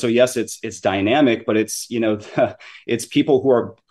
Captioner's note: chuckles